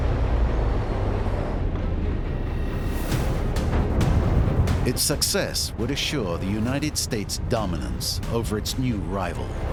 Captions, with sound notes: [explosion] Its success would assure the United States' dominance over its new rival.